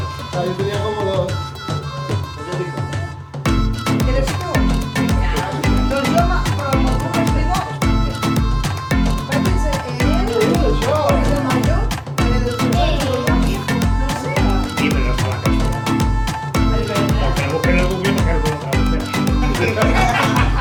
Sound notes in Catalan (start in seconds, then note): 0.1 castellà; 9.2 castellà; 18.4 riures